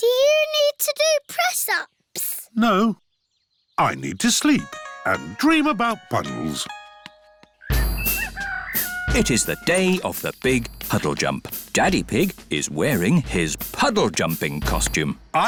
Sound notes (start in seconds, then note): 7.6 rooster crowing